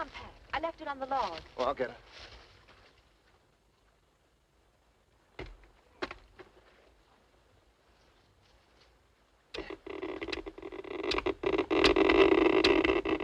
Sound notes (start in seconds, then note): 9.6 machine crackling